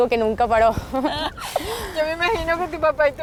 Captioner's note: laughs